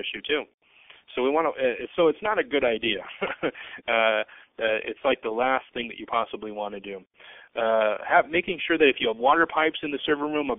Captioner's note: laughing